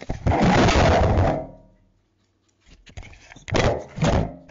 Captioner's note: camera crashing